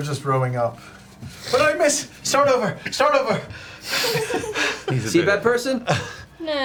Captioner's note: pants